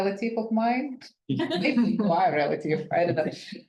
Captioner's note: attendee laughing